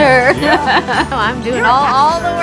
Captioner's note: laughs